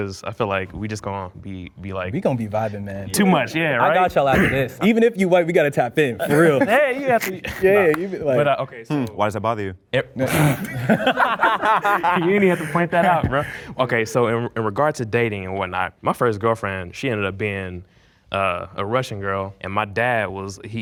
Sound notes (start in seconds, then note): 10.2 men laugh